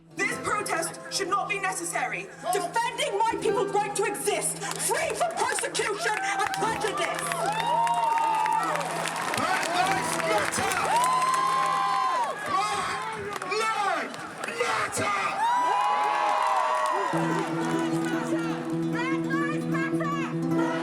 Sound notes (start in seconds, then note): 7.9 crowd cheers; 11.2 crowd cheers; 15.8 crowd cheers; 18.1 crowd; 20.7 crowd